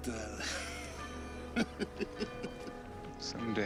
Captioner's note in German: Lachen